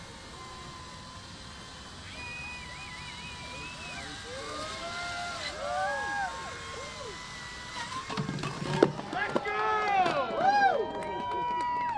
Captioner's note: cheers